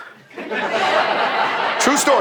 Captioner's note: people laughing